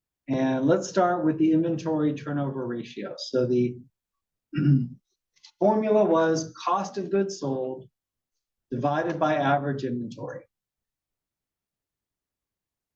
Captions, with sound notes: And let's start with the inventory turnover ratio. So the [COUGH] formula was cost of goods sold divided by average inventory.